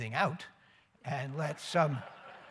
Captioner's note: laughter